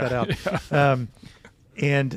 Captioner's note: laughs